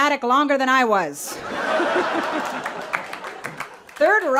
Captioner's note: people laughing